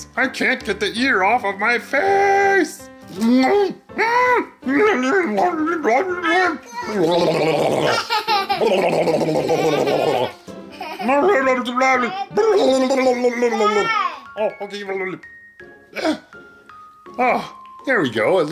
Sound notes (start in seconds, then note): 3.1 grumbling; 6.8 laughs